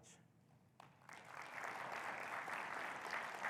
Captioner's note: audience applauding